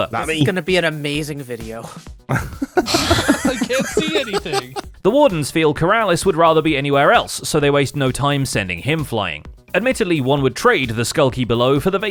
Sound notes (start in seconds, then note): 2.3 laughter